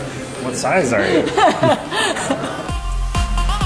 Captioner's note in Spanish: se ríe; música alegre